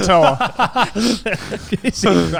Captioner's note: laughs loudly